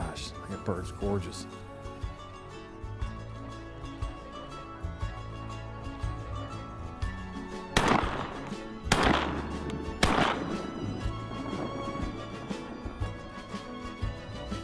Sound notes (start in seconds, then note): 8.8 gunshots